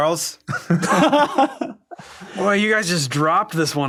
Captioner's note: all laugh lightly